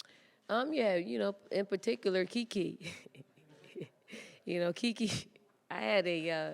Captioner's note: laughs